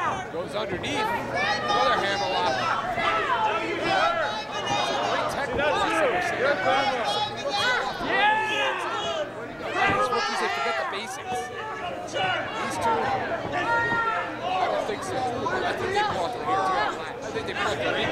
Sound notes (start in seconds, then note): 3.2 shouting